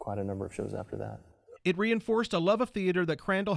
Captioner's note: voiceover